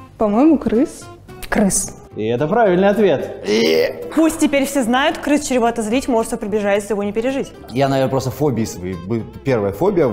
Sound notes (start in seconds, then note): 2.4 voice-over